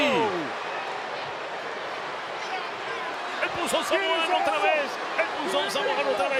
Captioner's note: applause